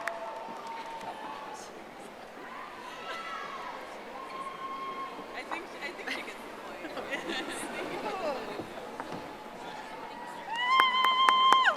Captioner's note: audience applauding